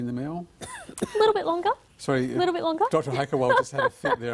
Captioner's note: coughs